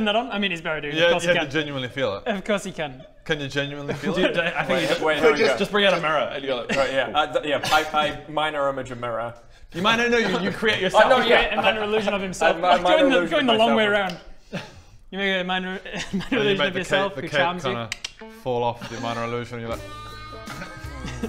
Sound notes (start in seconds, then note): 17.9 click click; 18.7 sexy music